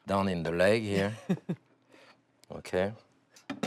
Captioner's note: laughs